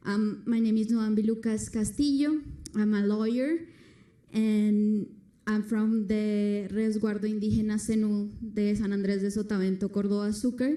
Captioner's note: foreign language